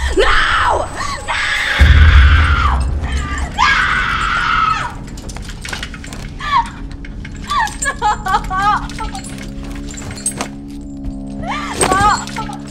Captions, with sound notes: No! No! No! [SOBBING] No.... Stop.